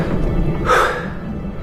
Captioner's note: gasps